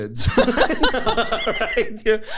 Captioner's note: laughter